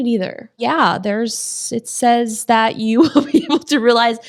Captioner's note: laughs